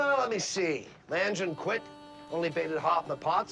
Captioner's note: honking car